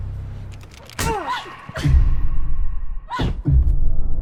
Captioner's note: grunts